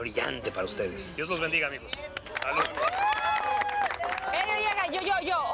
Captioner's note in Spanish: Aplausos y exclamaciones